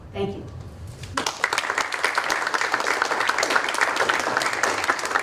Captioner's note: applause